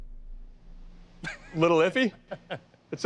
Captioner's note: laughs